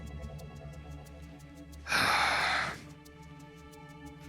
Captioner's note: sighs